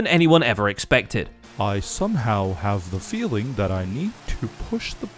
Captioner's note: in a mopey voice